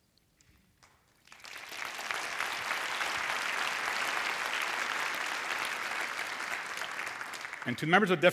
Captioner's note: applause